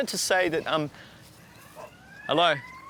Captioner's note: alarm ringing